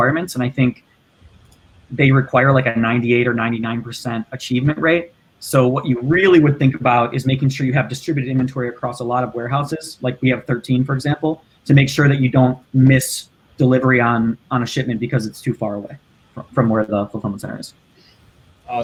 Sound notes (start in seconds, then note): none